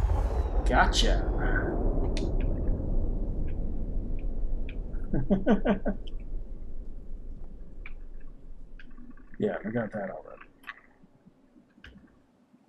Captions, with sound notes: Gotcha! [chuckles] Yeah, and we got that already.